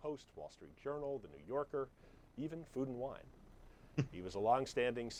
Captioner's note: Jonah laughs